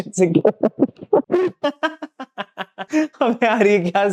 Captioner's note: laughing